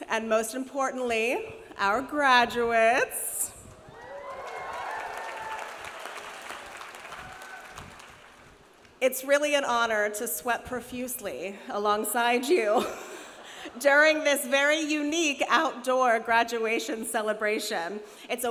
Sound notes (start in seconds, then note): 3.8 graduates cheering; 3.9 graduates applauding